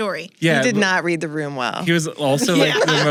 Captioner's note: both laugh